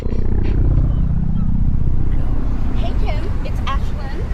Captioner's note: air quavering